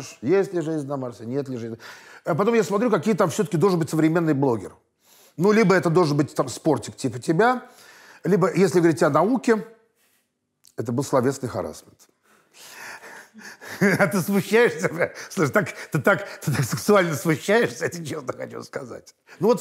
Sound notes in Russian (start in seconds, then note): 13.8 смеясь